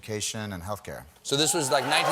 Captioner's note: cheers and applause